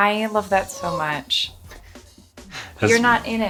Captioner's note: whining